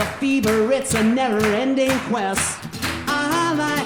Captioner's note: audience clapping